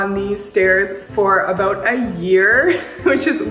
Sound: laughs

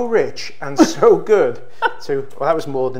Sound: chuckles

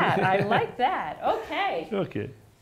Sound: laughs

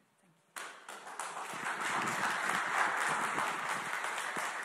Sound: audience clapping

